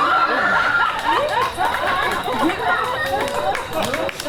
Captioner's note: audience laughs; audience applauds